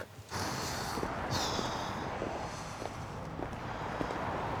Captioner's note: cars whooshing